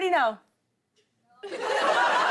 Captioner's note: laughter